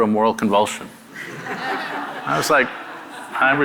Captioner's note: audience laughing